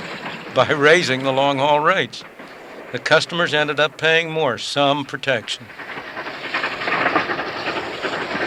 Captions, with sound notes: raising the long haul rates. The customers ended up paying more. Some protection! (train moving on tracks)